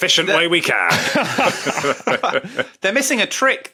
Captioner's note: group laughing